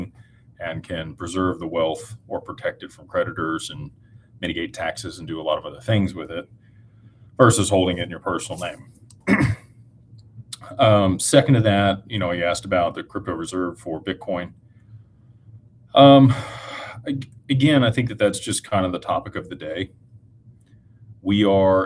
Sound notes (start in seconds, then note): 9.2 clears throat